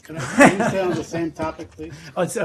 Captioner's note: laughing